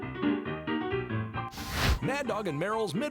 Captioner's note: fire Whoosh